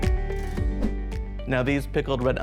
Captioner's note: air whooshes